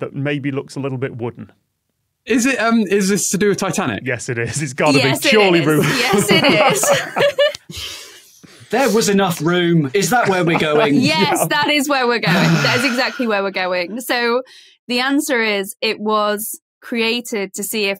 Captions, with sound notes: that maybe looks a little bit wooden. Is it— Is this to do with Titanic? Yes, it is. It's gotta be. Surely, Ruth. Yes, it is. (both laughing) There was enough room? Is that where we're going? (laughs) Yes, that is where we're going. That is exactly where we're going. So, the answer is, it was created to see